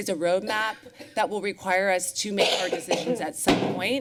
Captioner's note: coughing